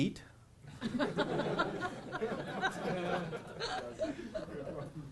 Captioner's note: audience laughing